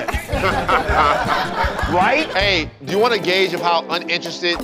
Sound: laughter

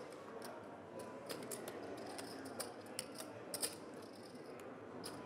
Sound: rattling of poker chips

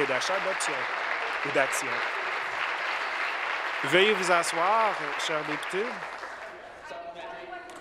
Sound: applause

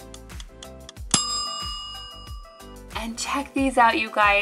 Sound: bell dinging

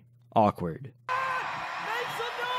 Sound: crowd cheers

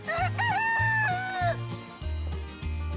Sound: rooster crows

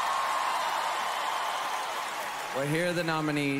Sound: cheering

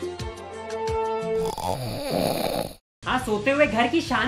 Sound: snoring

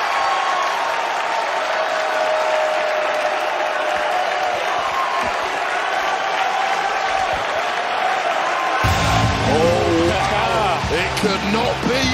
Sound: cheers and applause

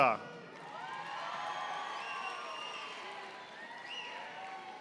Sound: audience applauding

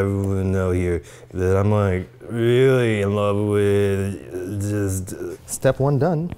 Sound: slurrs

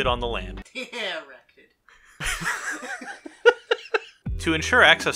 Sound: childish giggling

